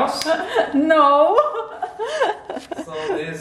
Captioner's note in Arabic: يضحك